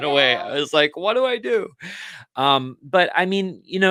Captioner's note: laughs